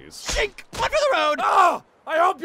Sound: frustrated screaming

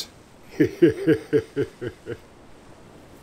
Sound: laughs

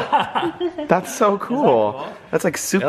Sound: laughter

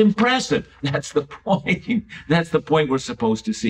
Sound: chuckles

